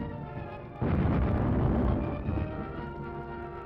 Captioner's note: boom!